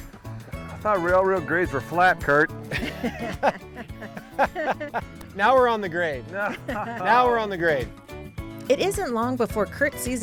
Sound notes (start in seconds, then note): 2.6 chuckles